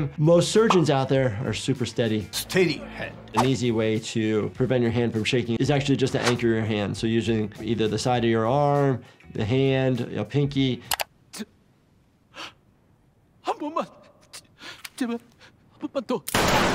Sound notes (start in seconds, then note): 10.9 man clamoring; 10.9 mouse clicks; 13.5 man speaks in foreign language